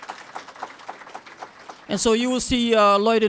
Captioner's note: applause